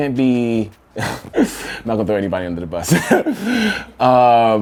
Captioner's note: laughs